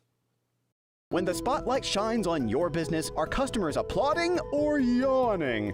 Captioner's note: voiceover